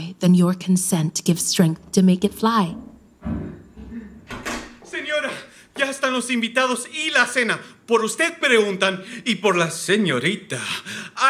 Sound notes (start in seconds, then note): 3.2 footsteps approaching; 4.2 door opening